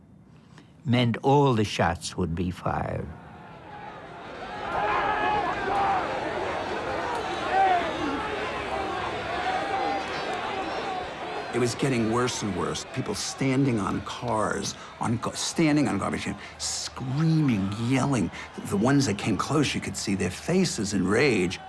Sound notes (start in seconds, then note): 3.8 yelling and clamoring